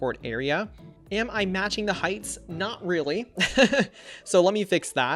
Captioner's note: laughs